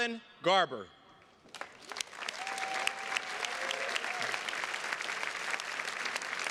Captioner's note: attendees cheers and claps